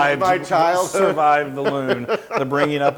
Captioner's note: laugh